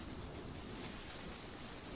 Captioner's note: trees rustling